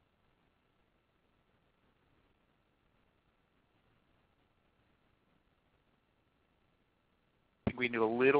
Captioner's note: silence